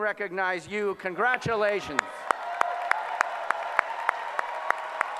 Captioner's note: applause